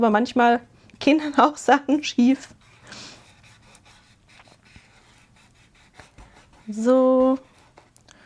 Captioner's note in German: schnauben